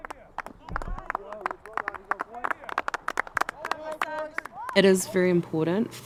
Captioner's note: applause